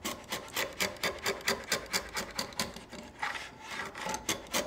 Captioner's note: tool scraping